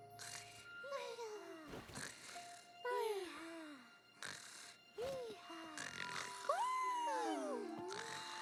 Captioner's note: soft snoring and murmurs